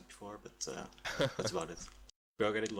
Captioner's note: laughs